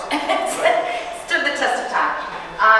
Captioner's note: chuckling